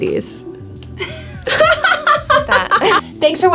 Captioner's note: both laughing